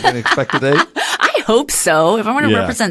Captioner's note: laugh